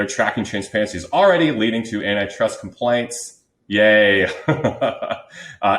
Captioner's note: laughs